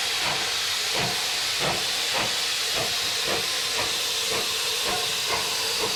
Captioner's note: train passes